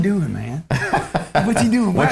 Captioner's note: Tai laughs